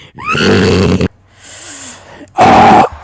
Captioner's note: inhale